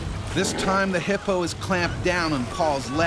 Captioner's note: voiceover